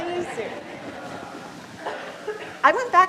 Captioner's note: audience laughs